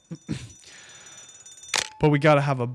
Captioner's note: bell ringing